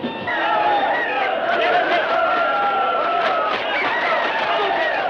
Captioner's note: audience shouts over each other